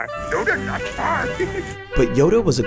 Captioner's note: chuckling